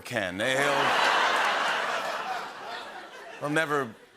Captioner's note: laughter and applause